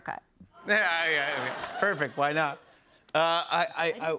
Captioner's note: laughter